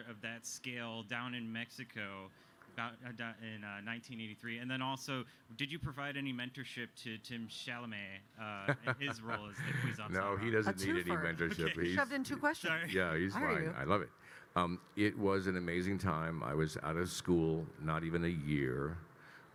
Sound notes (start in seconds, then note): 8.6 Kyle laughing